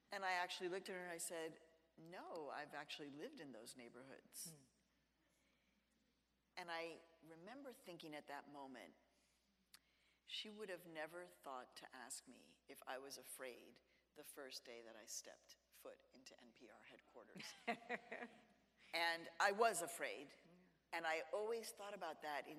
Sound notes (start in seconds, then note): 17.4 chuckles